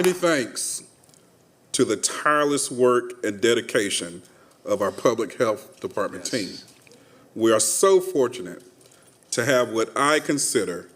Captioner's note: applause